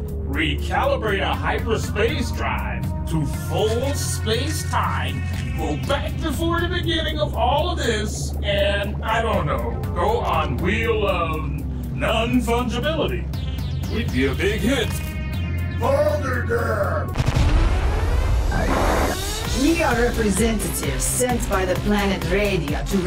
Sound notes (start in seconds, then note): 17.1 rapid explosions; 17.3 alarm blaring; 18.6 screen buzzes